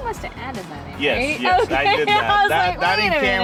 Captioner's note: laughs